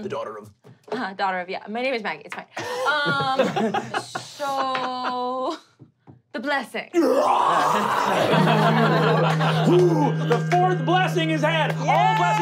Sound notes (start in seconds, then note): 2.6 laughing; 7.0 growling; 8.1 vibrating; 8.7 grunting